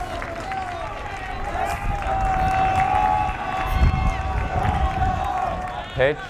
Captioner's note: fans cheering and clapping